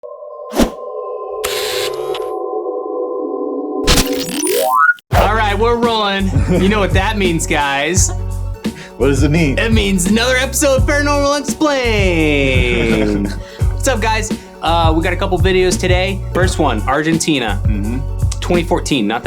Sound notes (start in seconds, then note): 0.5 whoosh sounding; 0.8 eerie tune; 1.8 mechanical buzzing; 3.9 static sounding; 12.5 chuckling